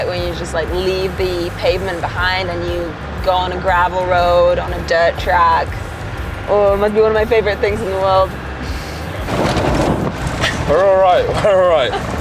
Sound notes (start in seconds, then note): 9.4 truck rattling